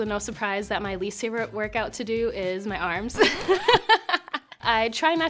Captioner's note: laughs